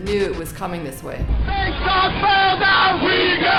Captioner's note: voiceover